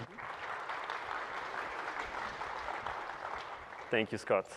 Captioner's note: applause